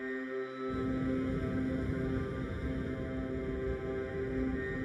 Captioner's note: wind blowing